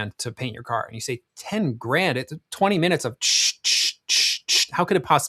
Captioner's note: hissing